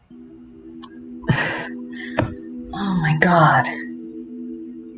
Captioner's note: exasperated sigh